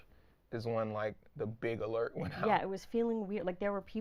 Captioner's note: laughing